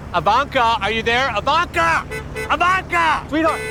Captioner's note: horn honks